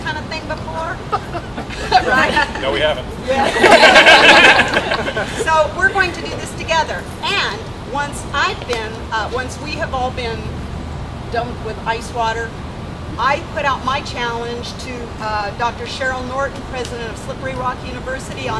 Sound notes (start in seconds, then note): 3.2 laughter